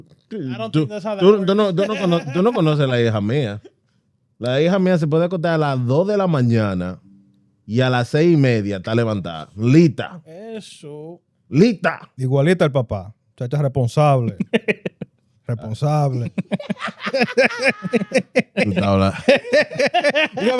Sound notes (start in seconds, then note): 1.2 speaking Spanish